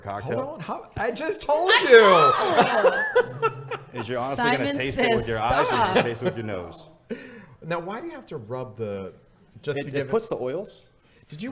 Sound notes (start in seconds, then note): 1.7 laughing